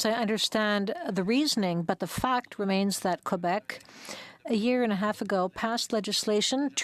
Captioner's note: speaking French